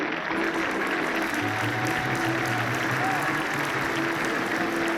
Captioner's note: audience clapping